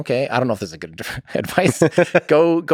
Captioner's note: Lex laughs